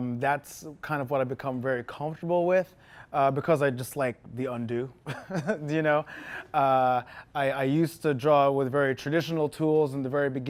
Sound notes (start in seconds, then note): 5.0 chuckles